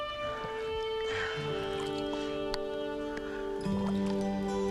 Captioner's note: water dripping; Eli sighs; low gentle music